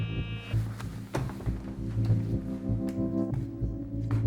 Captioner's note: beeping; tense music